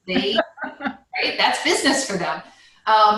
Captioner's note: laugh loudly